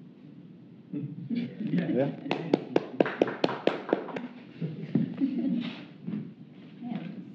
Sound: round of a applause

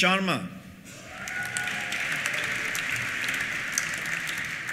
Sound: cheers; applause

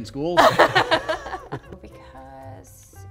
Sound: laughter

